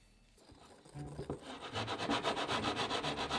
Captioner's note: whisking